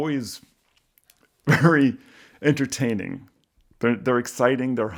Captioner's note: chuckles